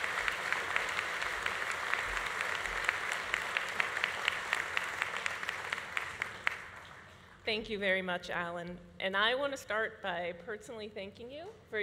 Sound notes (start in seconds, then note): 3.5 audience applause continues